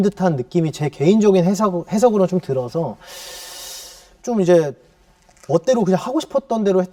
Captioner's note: deeep breath